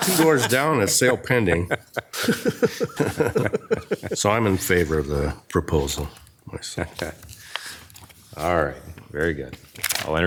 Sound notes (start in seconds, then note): 2.2 people chuckle